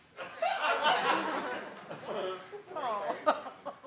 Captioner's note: crowd laughs